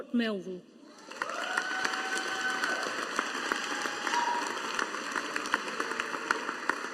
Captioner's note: audience applauding